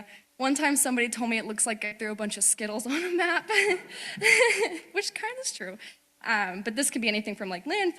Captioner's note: laughing